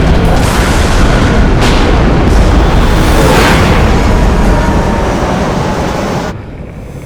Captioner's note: thunder; breathing hard